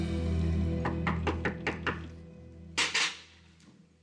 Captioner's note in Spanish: toques en la puerta